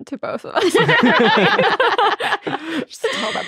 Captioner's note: all laughing